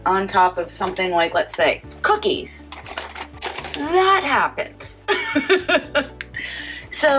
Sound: laughs

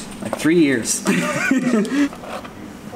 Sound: laughs

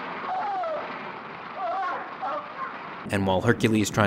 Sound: men yelling

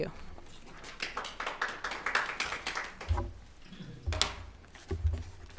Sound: audience applauding

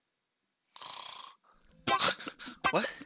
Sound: snore

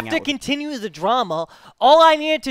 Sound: puke

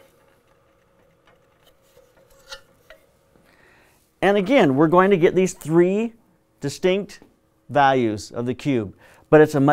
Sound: silence

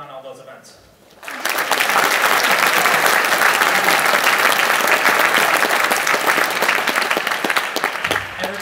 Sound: applause

